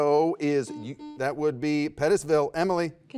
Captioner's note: buzzer beeps